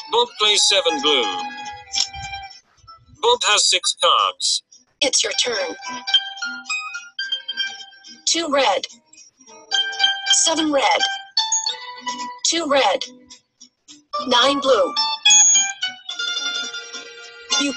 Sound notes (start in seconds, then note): 0.3 voiceover; 5.2 voiceover